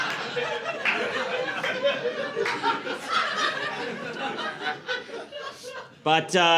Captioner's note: laughter